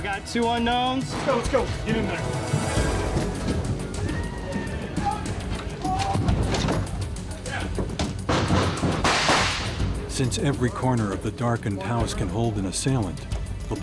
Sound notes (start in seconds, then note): 0.2 marine on radio; 4.5 yelling and gunfire; 10.3 voiceover